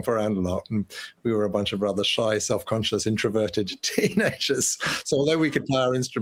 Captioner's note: laughter